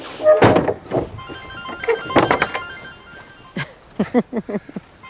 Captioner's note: cell phone rings; laughs